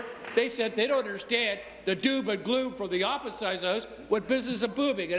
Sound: applause

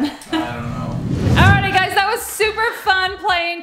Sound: whooshing

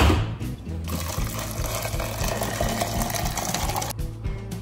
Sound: ice cubes colliding; pouring water

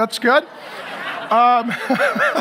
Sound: audience laughs; laughs

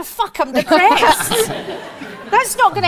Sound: audience laughs

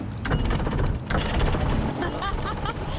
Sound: engine sputters; laughs

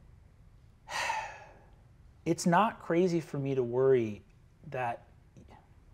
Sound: sighs deeply

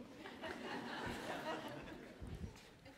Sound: laughter

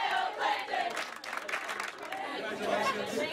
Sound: clap clap clap

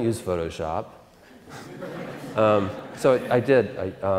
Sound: audience Laughter

